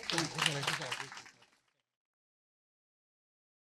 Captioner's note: applause